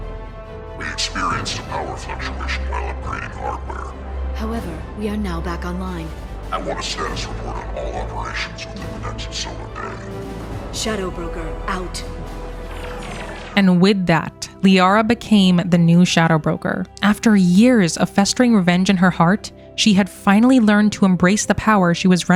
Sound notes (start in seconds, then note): 6.1 Liara distorted